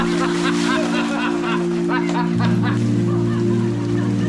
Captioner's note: laughing